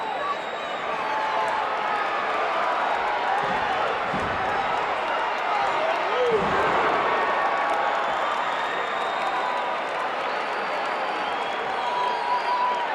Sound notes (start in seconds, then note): 6.6 audience applauding and cheering